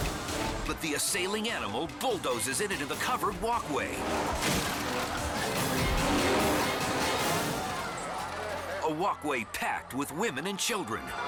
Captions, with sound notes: But the assailing animal bulldozes it into the covered walkway. (elephant crashes) A walkway packed with women and children.